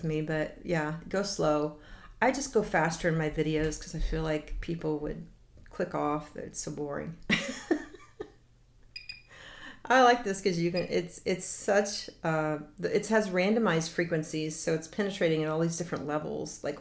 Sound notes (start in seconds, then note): 7.2 laughs